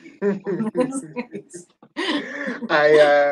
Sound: giggling

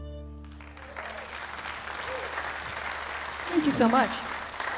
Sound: audience applauds

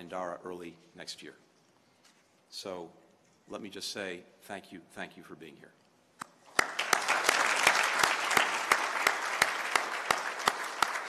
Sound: applause

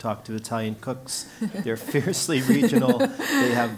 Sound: laugh

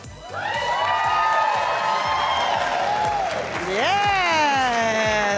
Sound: crowd cheering

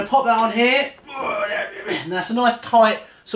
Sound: grunts

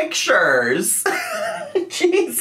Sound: laughing

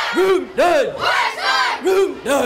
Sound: kids yelling

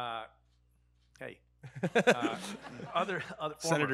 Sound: audience laughing

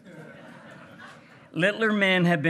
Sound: hearty laughing

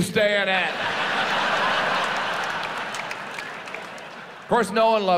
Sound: audience laughs

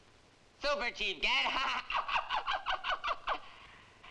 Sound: laughs

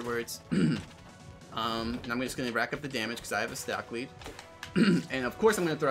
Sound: clears throat

